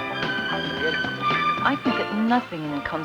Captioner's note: speaking Spanish